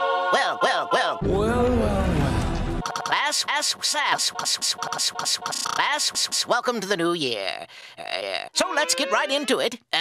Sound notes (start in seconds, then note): 4.3 further glitching